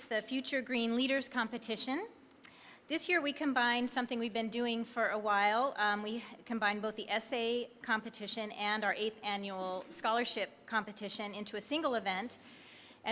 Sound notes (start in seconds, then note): none